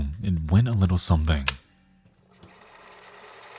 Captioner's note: machine clicks; machine whirring